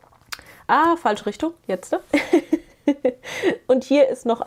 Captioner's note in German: gelächter